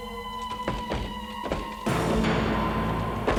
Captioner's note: door banging